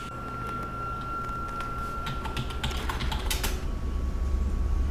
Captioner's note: keyboard keys clacking